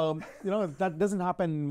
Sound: chuckles softly

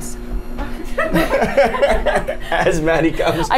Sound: the group laughs

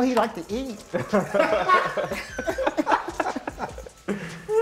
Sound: laughter

